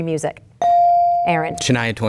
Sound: bell dinging

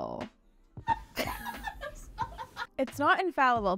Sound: director chuckling

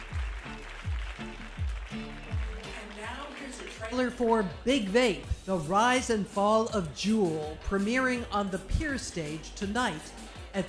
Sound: applause

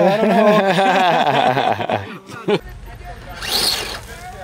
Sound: laughing

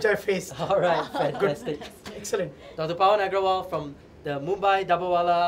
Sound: laughter

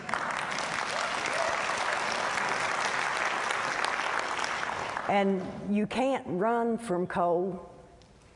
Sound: applause

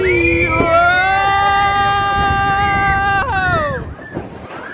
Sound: guests screaming

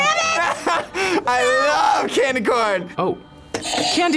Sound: laughs; buzzer rings

